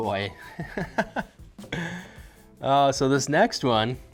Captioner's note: laughing